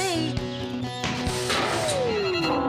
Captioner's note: crash!